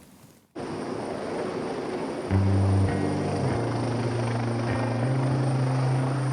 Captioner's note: helicopter rumbling; somber music